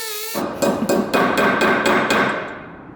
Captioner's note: bangs